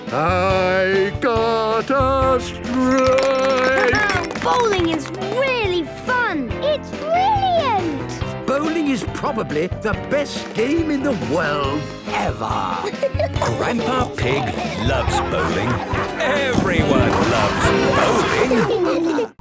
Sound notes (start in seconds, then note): 2.6 clapping, laughing